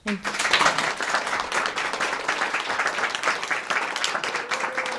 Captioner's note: audience applause